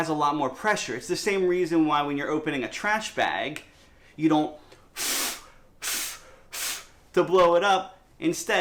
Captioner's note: blowing air